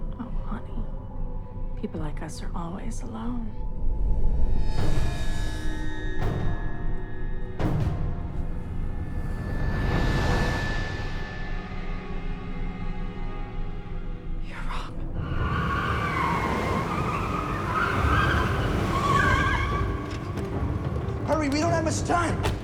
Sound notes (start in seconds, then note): 4.2 ominous music; 9.8 ominous music intensifies; 15.2 car tires screeching